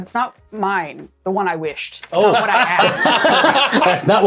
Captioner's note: cacophonous laughter